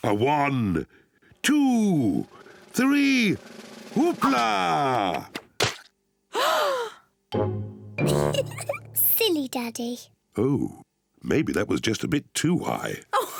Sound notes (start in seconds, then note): 6.3 all gasp; 8.0 giggles; 13.2 laughs